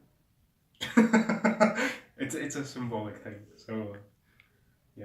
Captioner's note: laughs handsomely